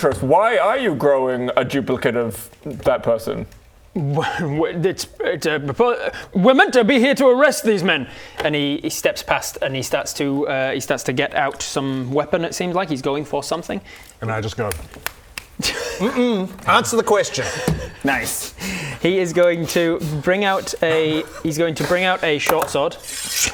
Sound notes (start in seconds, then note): 15.0 sassy clicks